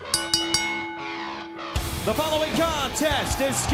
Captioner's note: bell ringing